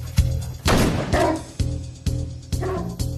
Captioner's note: shot blasting; barking